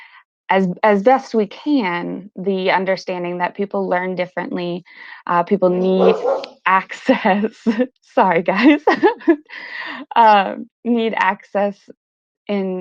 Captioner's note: dog Barking